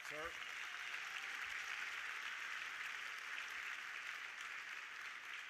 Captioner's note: audience applauding